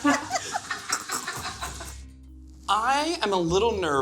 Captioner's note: laughs